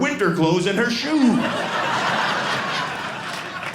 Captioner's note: audience laughing